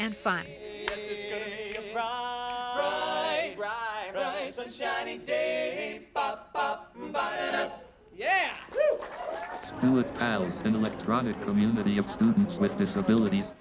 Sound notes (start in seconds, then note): 0.3 singing; 9.8 computer voice